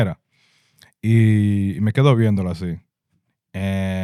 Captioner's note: speaking In Foreign Language